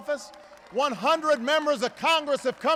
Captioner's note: applause